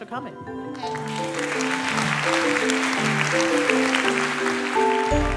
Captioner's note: applause